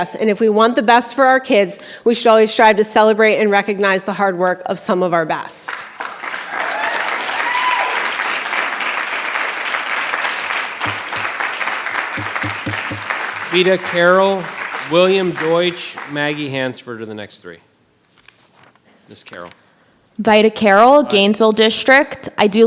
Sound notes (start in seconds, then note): 5.9 audience applause; 12.1 gavel pounding